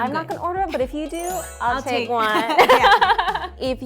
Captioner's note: laughing